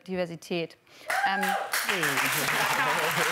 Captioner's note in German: Jubel, Applaus